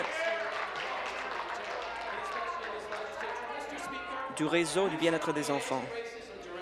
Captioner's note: applause